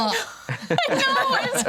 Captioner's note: everyone giggles